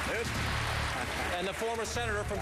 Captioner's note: applause